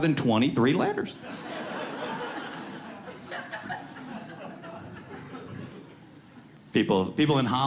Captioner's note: audience laughs